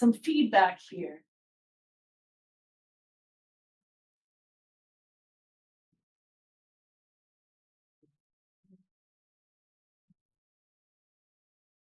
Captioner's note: silence